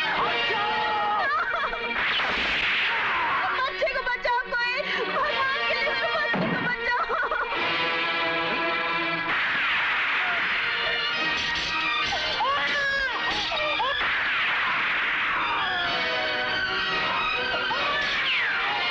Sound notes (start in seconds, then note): 2.0 gunshot; 9.2 gunshot; 12.1 baby crying; 13.9 gunshot; 15.4 groans; 18.5 baby crying